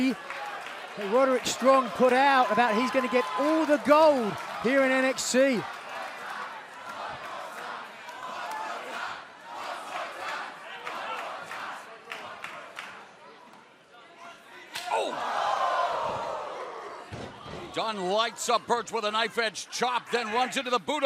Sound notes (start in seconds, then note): 9.6 fans chanting